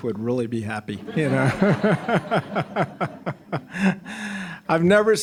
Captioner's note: all laughing